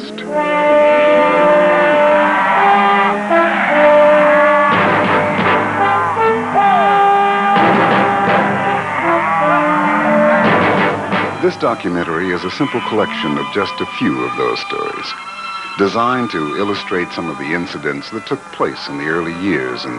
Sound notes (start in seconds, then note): 0.2 triumphant music; 4.2 cattle mooing; 5.7 whooping